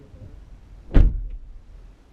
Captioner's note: door closes